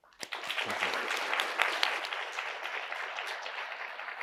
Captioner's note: audience applauding